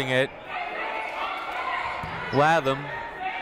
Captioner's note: people shouting in the crowd